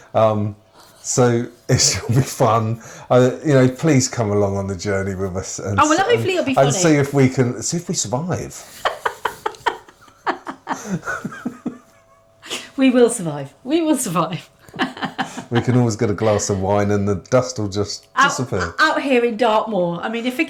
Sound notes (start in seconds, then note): 11.9 laughter